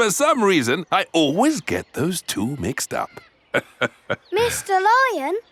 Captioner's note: laughs